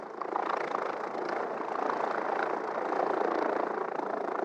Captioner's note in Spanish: Ruido de helicóptero